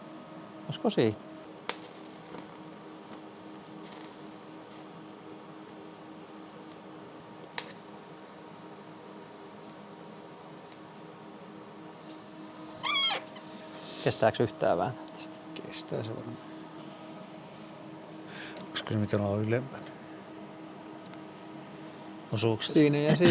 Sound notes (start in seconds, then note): 2.2 welding